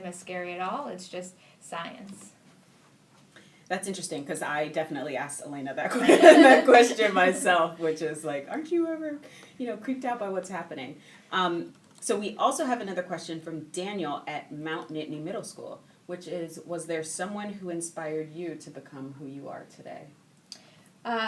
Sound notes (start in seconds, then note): 5.9 laughing